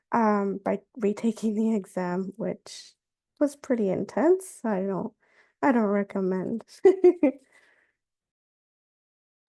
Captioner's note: laughs